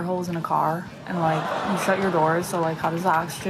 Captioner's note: audience laughs